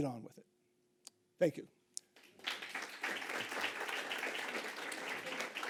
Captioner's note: audience applauding